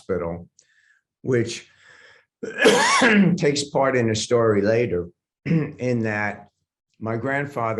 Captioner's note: coughs